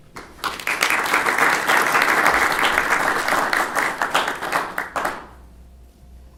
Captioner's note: applause